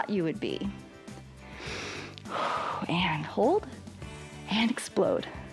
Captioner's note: inhales and exhales